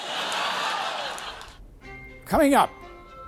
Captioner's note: laughter